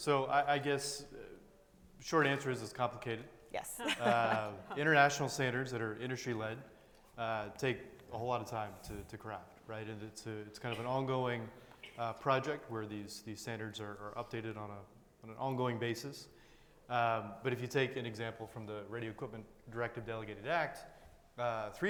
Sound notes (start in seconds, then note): 3.8 chuckling